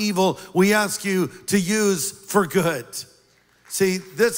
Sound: applause

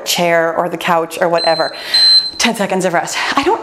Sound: timer beeps

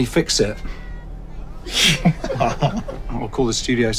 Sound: laughs

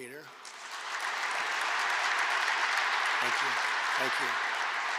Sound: applause

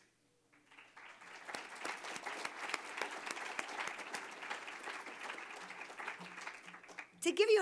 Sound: applause

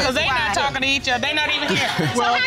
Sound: chuckles

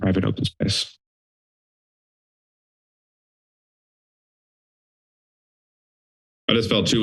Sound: silence

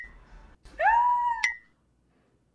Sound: dinging; yells

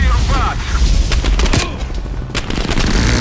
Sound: gunshots

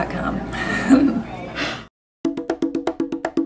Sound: laughter

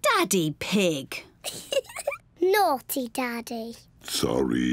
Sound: giggles

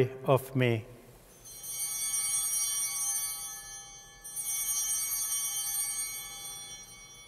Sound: chimes ringing

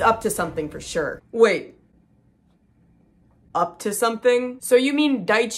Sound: long pause

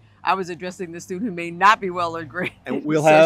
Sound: laughter

